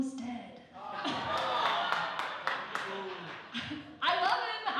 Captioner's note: audience applause; laughing